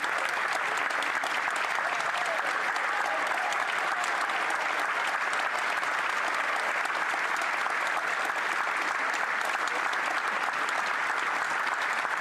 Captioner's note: applause